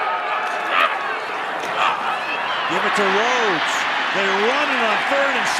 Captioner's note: cheering